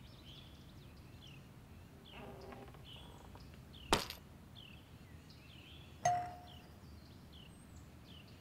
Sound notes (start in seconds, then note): 2.0 door creaking; 6.0 half broken door bell tone